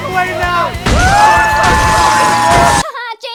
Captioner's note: collective sounds of the internet's reaction to this; basically riot sounds; collective sounds of the internet's reaction to this